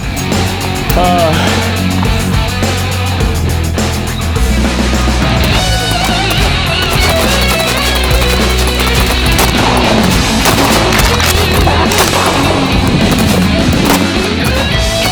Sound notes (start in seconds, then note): 0.1 rock music; 7.4 guns popping; 7.4 hard rock music